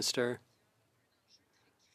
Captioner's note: speaking French